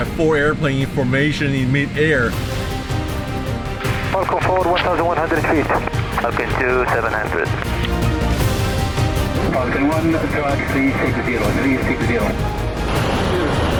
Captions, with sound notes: - Four aeroplane formation in mid-air. (pilots speaking over radio) (dramatic music) (pilots speaking over radio)